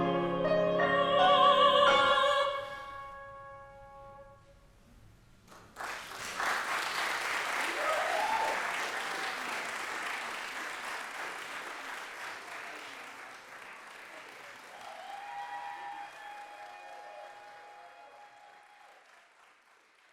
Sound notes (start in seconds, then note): 5.5 applause, cheering